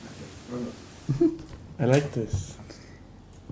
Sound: laughs

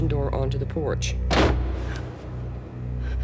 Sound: door slamming

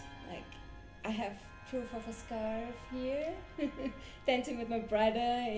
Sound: she laughs

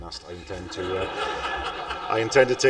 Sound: laughter

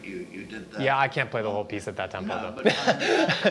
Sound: laughs

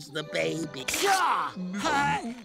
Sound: chuckles

